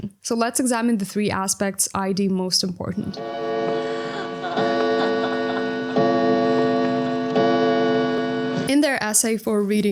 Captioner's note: clock chimes